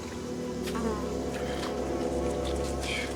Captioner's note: flies buzzing